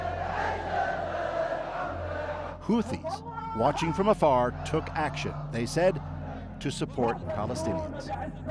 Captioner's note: chanting